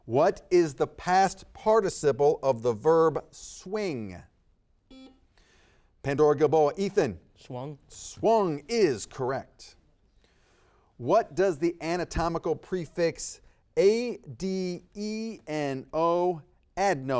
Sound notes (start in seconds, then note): 4.9 buzzer beeps